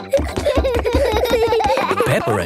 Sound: both giggling

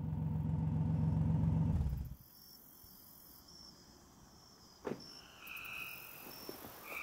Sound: crickets chirping

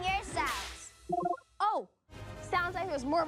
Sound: beeps

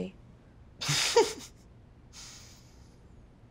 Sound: laughing

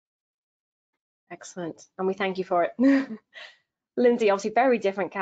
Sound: chuckles

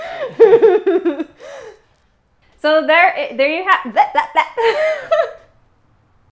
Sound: laugher

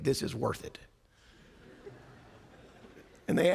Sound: laughter

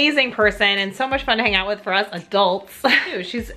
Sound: chuckles

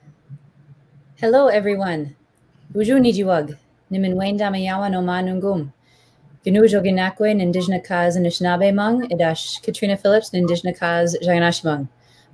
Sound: speaking Ojibwe

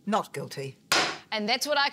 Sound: gavel cracks

